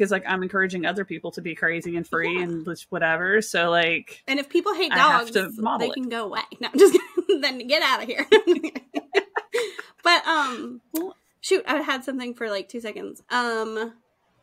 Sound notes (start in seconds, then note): 8.2 both laughing